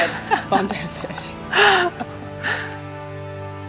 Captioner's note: laughs